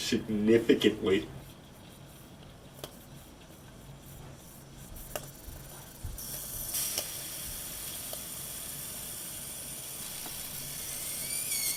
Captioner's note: popping and hissing from the hot dog